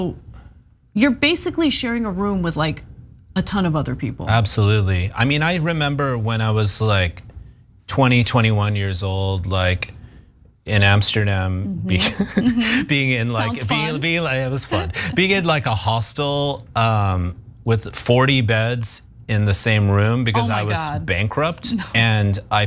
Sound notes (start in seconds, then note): 11.9 laugh